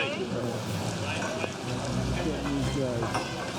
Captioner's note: indistinct chatter